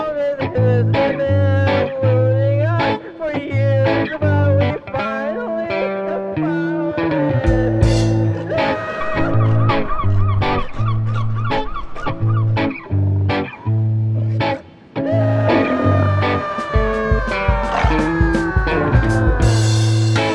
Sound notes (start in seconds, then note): 8.0 annoyed seagull screaming; 15.1 sea lion grunts